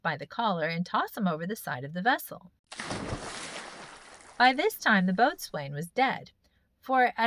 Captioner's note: splash